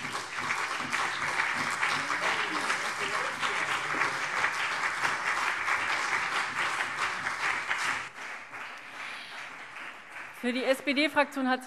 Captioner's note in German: Beifall CDU und BÜNDNIS 90/DIE GRÜNEN